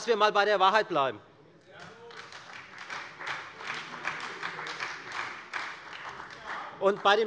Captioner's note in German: Beifall bei der FDP und der SPD